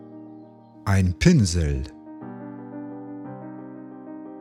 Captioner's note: german